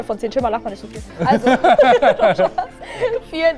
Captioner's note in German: Lachen